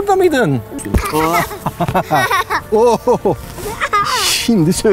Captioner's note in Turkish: gülüşmeler